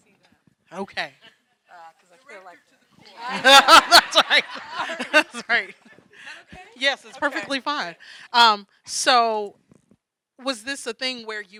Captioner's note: laughing